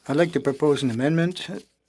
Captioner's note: speaking French